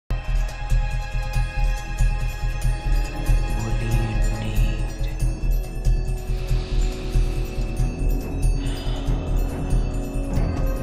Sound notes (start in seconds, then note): 3.6 quietly